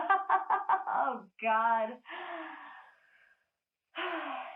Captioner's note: laughs